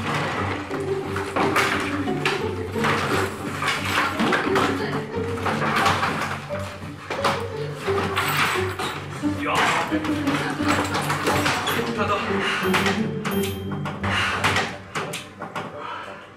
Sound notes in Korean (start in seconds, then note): 0.2 후다다닥; 2.8 우당탕탕